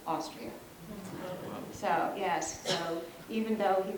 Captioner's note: crowd murmurs in surprise